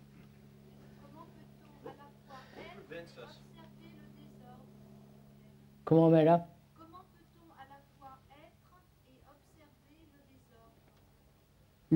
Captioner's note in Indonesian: Dalam bahasa Perancis